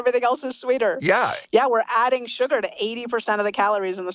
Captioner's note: laughs